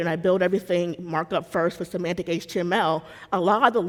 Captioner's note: none